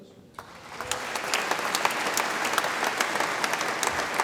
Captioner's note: audience applauds